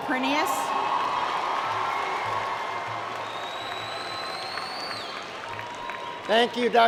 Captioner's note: applause & Cheer